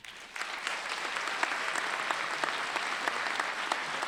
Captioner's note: applause